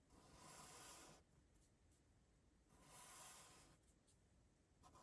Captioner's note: marker writing